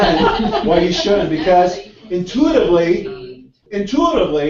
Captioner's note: laugh